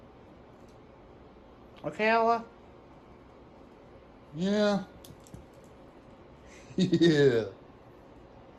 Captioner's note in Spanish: Ella se ríe